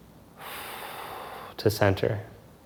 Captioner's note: exhales softly